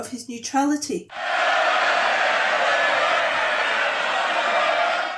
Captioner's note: House of Commons. MPs jeering